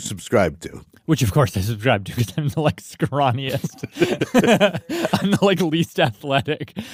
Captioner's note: laughs